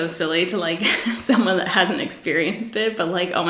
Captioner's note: giggles